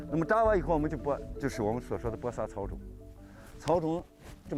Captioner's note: speaking chinese